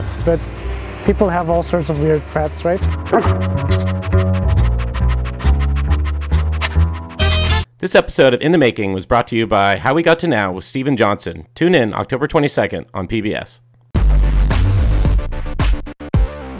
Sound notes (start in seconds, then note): 3.0 dog barking